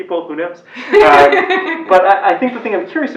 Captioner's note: laugh